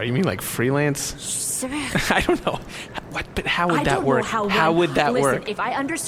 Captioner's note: laughing; makes a ‘shut up’ noise